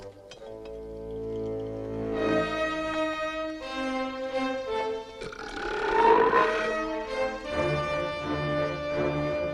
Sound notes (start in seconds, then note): 5.1 Torente belches